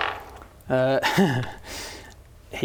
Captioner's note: unlucky laugh